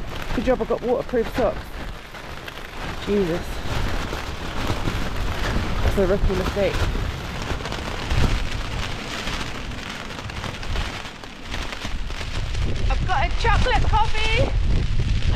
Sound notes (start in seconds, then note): 8.7 rain & wind